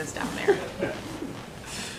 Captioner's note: laughter